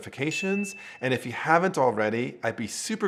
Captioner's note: bell ringing